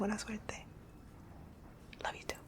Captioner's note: whispering